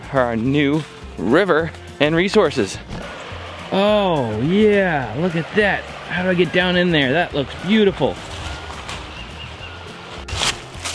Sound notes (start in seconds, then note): 3.7 stream rushing; 9.3 birds calling; 10.7 leaves crunching